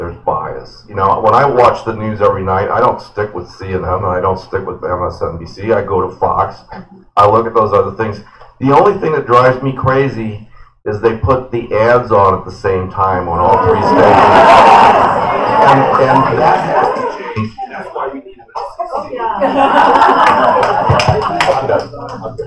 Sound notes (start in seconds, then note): 13.4 laughter; 21.5 laughter